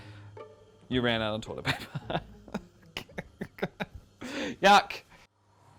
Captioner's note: laughs